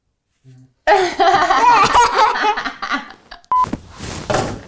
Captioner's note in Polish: Śmiech